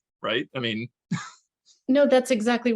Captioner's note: chuckles